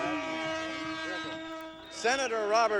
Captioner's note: train horn honks softly